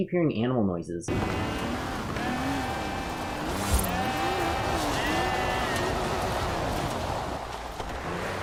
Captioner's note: sheep bleating